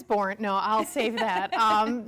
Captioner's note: laughing